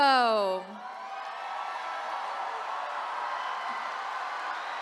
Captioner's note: attendees cheering